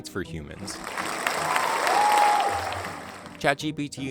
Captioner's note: crowd applauds